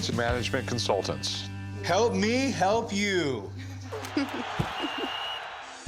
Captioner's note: crowd roaring, whistle